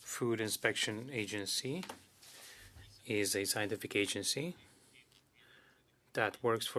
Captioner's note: speaking French